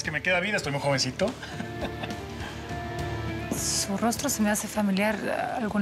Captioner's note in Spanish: risas